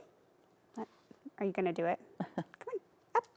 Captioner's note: chuckles